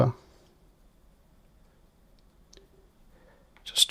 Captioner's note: silence